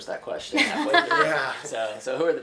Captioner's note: laughing